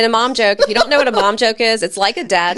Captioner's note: laughing